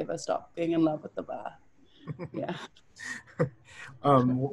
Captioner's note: laughter